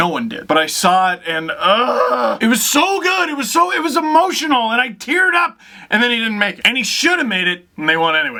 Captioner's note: ughhh